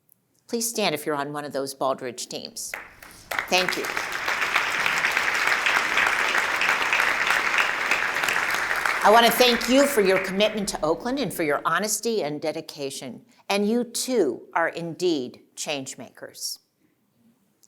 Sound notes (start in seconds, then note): 2.7 applause